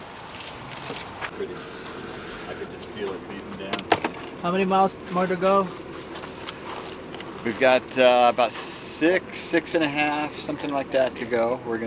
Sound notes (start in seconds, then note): 1.3 loud spraying